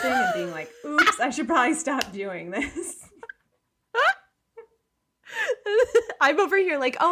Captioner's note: laughing